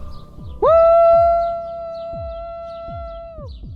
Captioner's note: howls